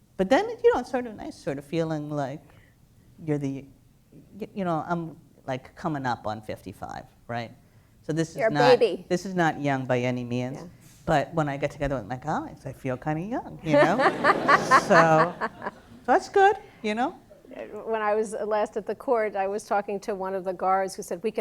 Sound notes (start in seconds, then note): 13.6 laughter